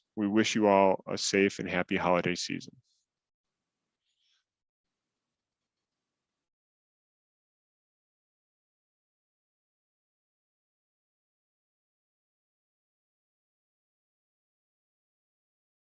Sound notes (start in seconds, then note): 5.2 silence